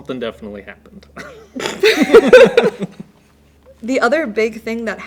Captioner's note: both laugh